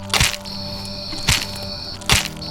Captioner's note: repeated, fleshy crunching